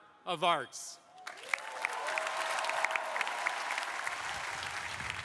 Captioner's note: crowd applauding